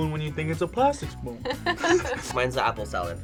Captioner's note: laughs